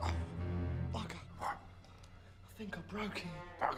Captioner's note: grunts